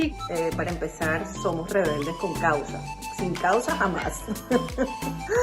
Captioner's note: laughs